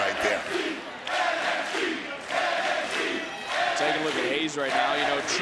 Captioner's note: crowd chants "nxt"